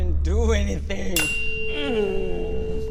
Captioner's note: tuning fork rings; Hafiq groans